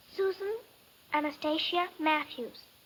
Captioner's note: none